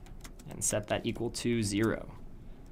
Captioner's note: typing Noises